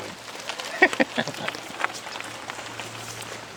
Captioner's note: laughs